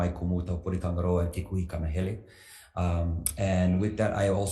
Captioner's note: speaks foreign language